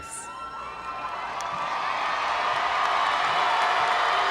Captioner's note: audience cheering